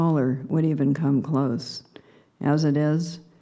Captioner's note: none